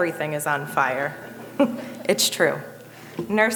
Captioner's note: audience chuckling